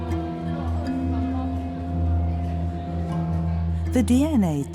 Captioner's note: travelers chattering